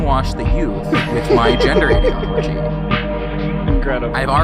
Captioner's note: laughs